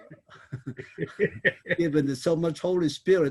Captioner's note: laughing